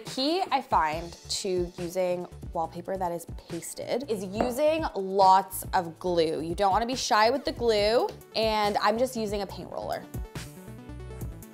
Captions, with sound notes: So the key I find to using wallpaper that is pasted (container thudding) is using lots of glue. You don't wanna be shy with the glue, and I'm just using a paint roller.